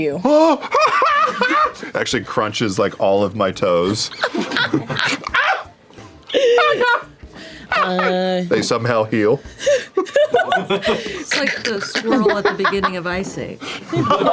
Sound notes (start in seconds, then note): 1.2 wails; 3.9 laughter; 9.6 laughter